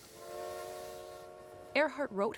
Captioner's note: train whistle